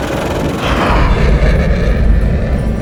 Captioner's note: plane engine roaring